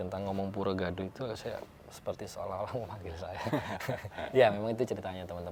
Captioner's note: laughs